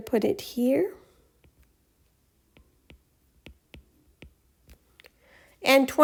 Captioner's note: writing Sounds